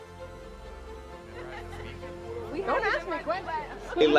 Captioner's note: laughter